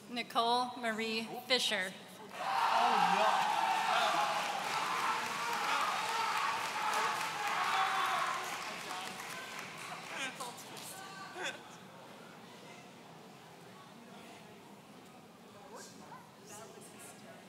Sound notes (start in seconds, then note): 2.3 audience cheering